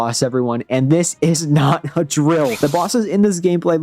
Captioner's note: drill sfx